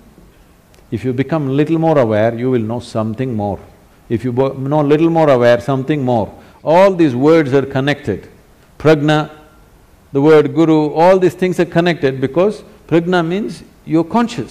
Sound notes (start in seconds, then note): none